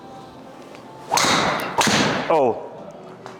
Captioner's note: golf club whacking